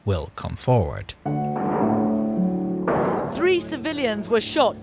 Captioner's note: door thudding